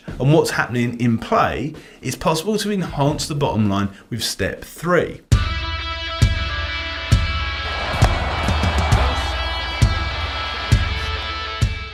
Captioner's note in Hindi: तालियाँ